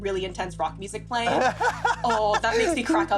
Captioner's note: laughter